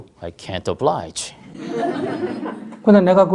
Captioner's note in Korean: 청중 웃음